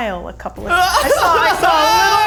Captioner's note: laughs